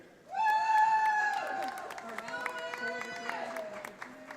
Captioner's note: audience applauding